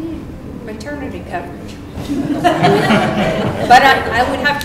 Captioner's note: laughter